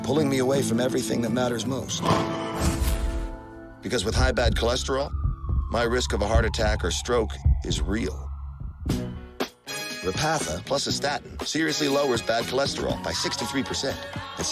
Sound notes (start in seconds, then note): 3.0 siren